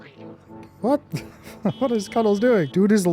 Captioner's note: laughs; car honking